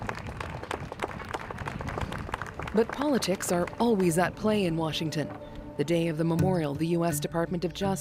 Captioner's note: applause